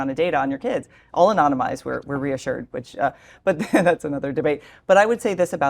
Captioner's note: laugh